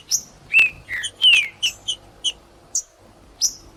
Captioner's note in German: trinca ferro cantando; trinca ferro cantando